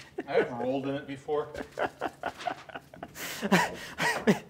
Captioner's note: laughing